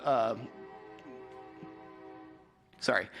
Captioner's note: train horn